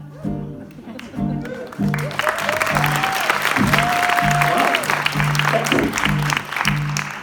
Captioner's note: applause